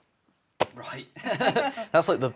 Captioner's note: laughing